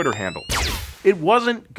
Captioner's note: blue bolt zaps